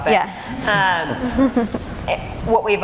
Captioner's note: laughing